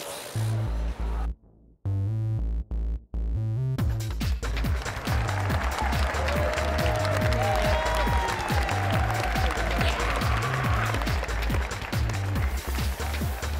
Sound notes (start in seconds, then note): 4.3 applause and cheering; 11.7 dance music plays